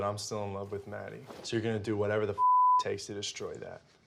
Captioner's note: beep